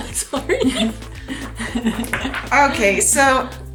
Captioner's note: laughs